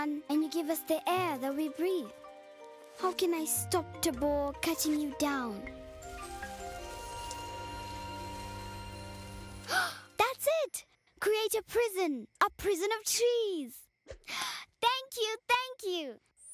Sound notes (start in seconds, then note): 5.4 leaves rustling, soft rumbling; 9.3 gasping